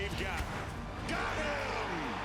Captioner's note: swoosh